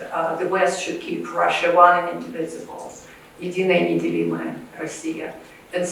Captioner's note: russian